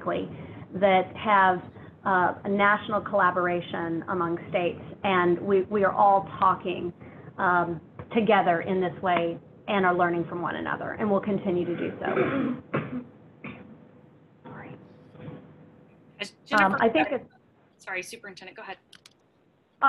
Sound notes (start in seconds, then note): 11.6 coughing